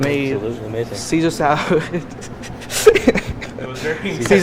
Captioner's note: chuckles